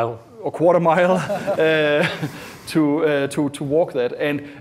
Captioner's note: laughing